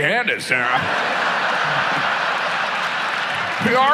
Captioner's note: audience laughs